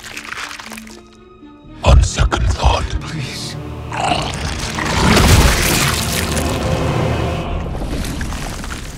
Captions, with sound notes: -On second thought... -Please. (CRUNCHES)